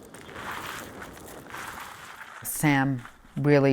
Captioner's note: gravel crunching